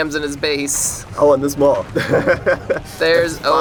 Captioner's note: laughs